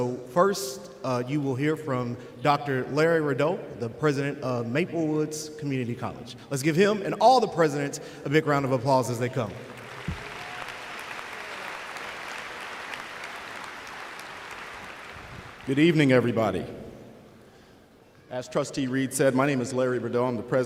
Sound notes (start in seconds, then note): 9.6 applause